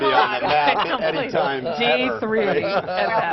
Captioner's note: laughter